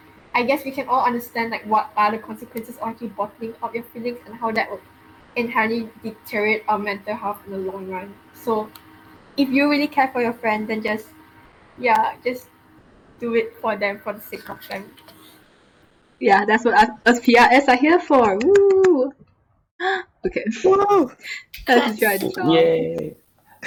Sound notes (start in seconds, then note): 18.9 clapping; 20.1 gasp